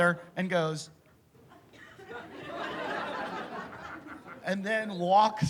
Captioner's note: laughter